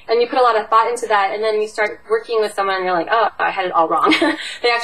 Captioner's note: laughs